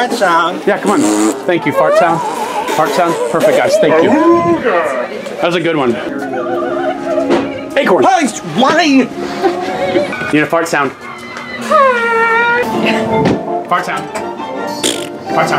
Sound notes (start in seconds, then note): 0.8 blows raspberries; 9.1 chuckles; 11.7 whistle sound; 14.8 blows raspberries